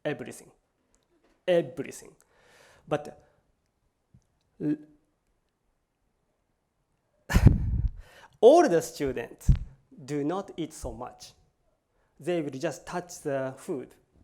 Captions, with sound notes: everything, everything. But-- [LAUGHS]---- older student do not eat so much. They would just touch the food.